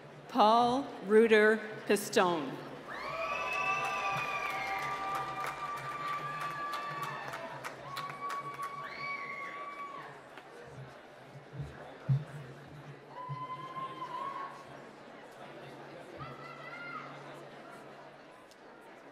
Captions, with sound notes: - Paul Ruter Pistone. (cheering and applause)